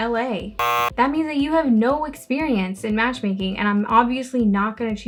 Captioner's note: buzzer